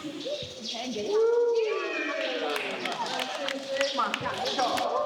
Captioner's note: applause